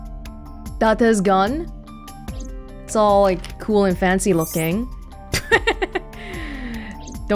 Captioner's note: chuckles